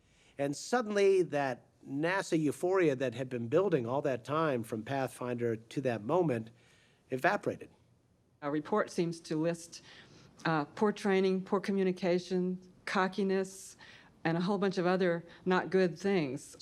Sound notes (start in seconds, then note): none